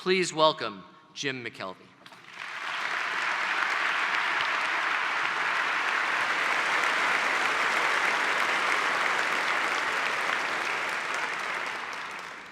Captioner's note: applause